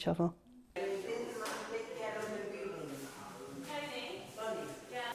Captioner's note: people chattering